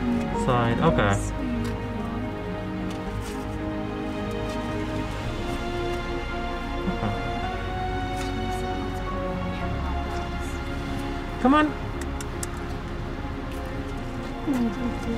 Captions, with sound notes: --- side. Okay. Aww sweetheart. Okay. Come on. [Tongue clicks]